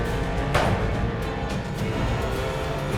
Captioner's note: gunshot